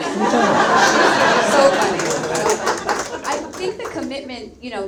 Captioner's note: audience laughs